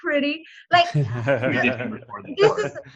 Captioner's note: both laughing